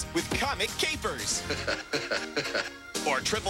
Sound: "Heh-heh" laugh played 3 times

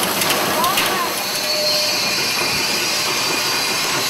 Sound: steam hissing

